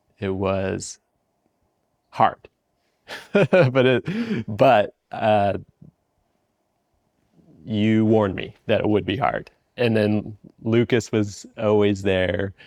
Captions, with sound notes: it was hard. (laughs) But you warned me that it would be hard. And then Lucas was always there.